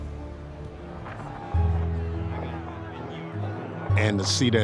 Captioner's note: crowd clamoring